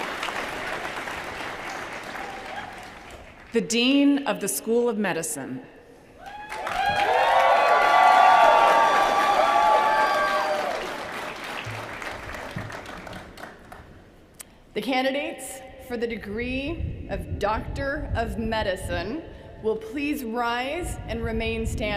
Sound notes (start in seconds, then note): 0.0 applause; 9.6 cheers & applause